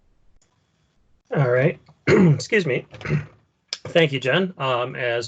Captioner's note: clears throat